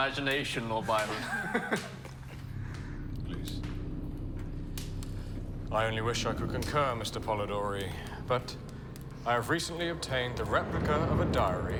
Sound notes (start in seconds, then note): 0.9 Polidori laughs